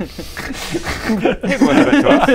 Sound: unheroic laughter

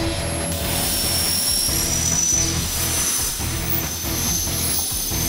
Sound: welding machine crackling

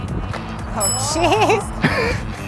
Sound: chime

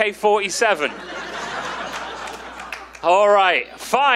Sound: audience laughing

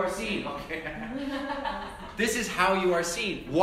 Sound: laugh

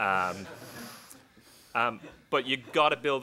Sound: laughing

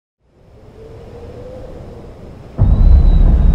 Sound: wind howling

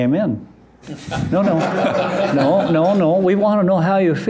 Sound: laughter

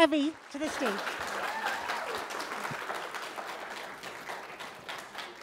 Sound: applause

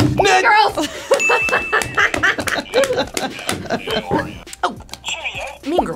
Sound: laughing; bell dinging

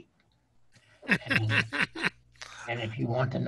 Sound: laughing

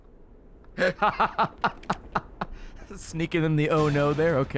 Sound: laughs

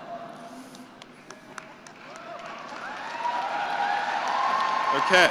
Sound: cheering and applause

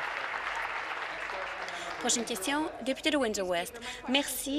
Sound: applause

